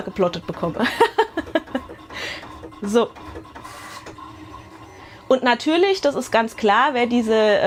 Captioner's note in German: Gelächter